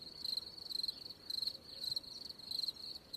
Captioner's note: crickets chirping